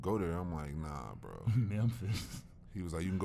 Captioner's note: chuckles